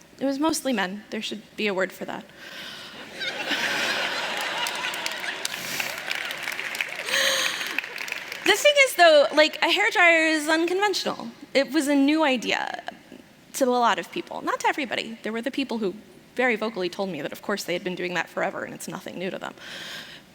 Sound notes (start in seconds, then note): 3.0 laughter; 3.9 applause